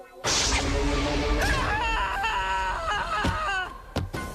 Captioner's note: screaming